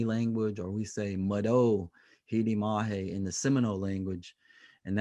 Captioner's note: speaking native language